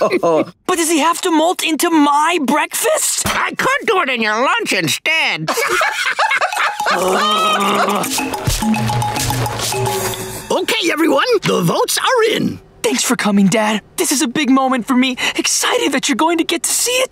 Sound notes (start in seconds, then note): 5.5 laughing; 6.8 growling